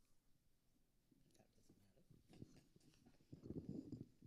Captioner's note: quietly